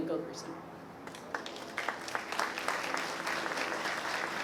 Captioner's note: applause